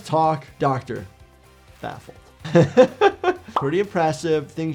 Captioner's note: laughs